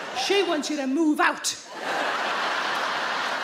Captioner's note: crowd laughs